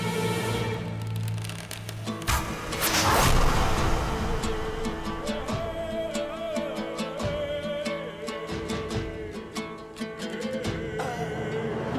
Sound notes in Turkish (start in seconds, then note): 2.2 Ok saplanma sesi